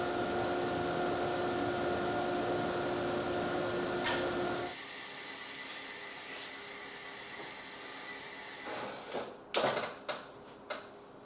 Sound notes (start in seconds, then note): none